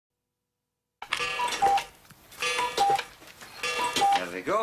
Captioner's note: chiming